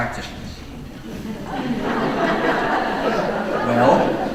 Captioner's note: audience laughing